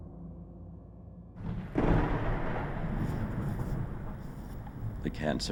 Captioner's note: thunder booming